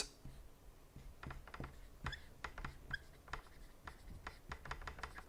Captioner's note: marker squeaking